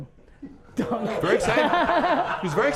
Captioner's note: group laughter